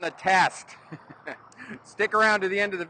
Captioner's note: chuckles